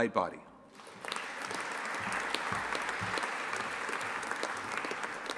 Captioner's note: audience applauding